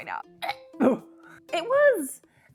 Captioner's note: gags